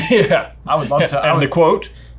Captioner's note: laughs